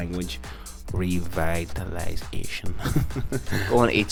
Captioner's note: laughs